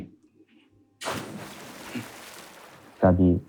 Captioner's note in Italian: Splash